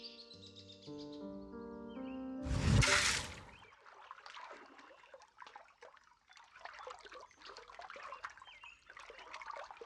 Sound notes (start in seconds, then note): 0.0 sad Music; 2.4 splash; 2.5 rumble; 6.5 rippling water